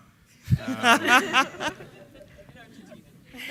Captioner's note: laughing